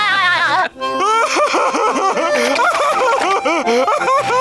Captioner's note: laughing